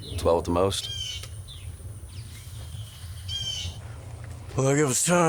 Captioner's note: birds squawking